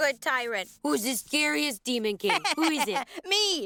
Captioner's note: laughs